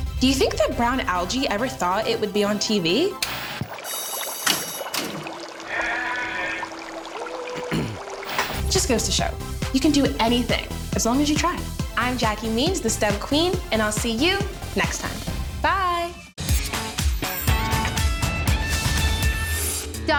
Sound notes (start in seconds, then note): 8.0 bell sounding and water bubbling noises